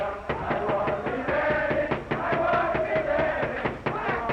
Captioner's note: knocking on door